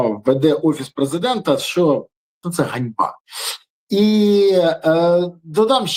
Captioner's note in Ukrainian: сопіння